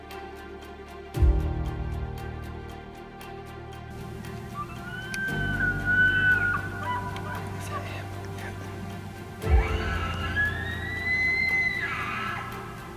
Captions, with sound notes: (bull bugling) Is that him? Yeah (caller bugling)